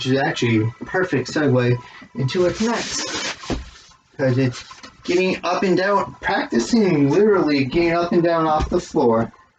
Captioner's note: rustling of the blocks